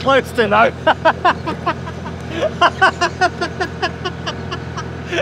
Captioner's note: laughing